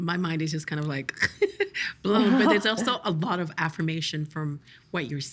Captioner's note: laughing